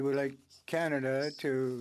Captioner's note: speaking French